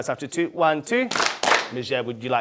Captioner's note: clap